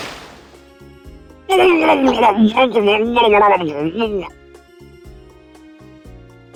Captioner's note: bubble bubble